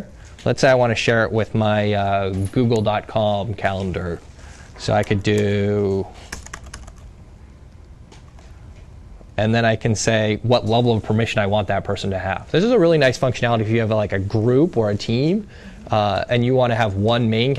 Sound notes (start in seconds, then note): 6.2 typing